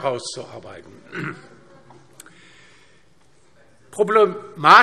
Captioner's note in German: Heiterkeit DIE LINKE